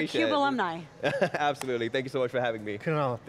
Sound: laughs

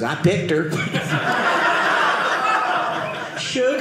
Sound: audience laughing

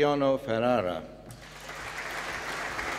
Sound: applause

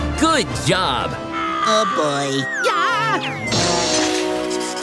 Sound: screaming

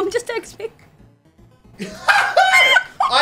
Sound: laughing

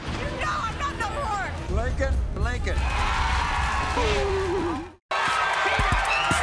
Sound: audience cheers

